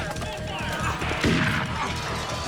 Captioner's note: gunshots